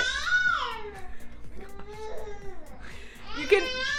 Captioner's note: baby screaming